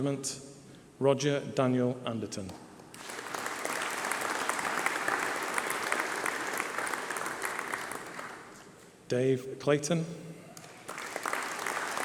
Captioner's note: applause